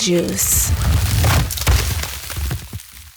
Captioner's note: crunching sound